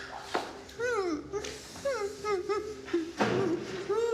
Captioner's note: Michelle crying